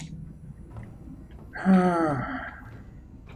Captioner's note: sighs